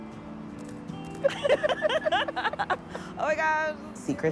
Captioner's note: laughing